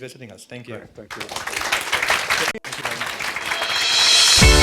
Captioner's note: audience applauds; upbeat rhythmic music